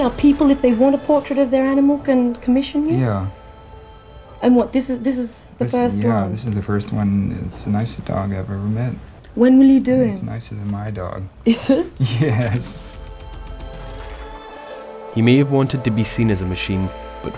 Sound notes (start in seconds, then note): 11.5 laughs